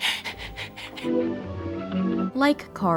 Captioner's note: sobs